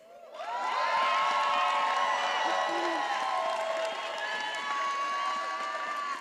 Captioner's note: attendees applauding and cheering